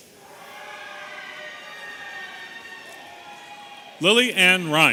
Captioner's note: audience cheering